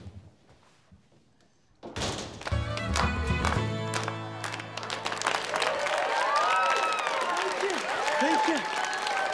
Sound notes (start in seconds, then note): 2.5 lively dance music; 4.6 students cheer